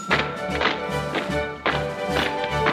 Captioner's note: bell rings; waiters marching